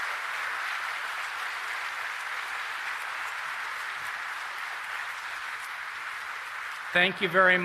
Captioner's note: applause